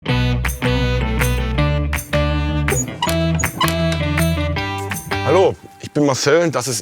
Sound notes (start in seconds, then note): 2.1 upbeat music; 2.7 squeaking